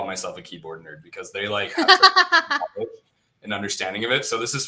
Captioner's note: laughter